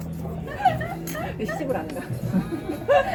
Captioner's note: hahahahahahahaha